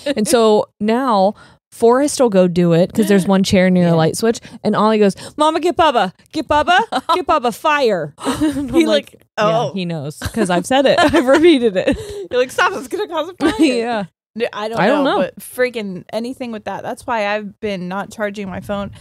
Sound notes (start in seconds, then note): 10.2 laughing